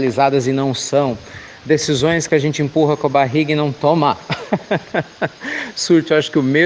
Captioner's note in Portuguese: risos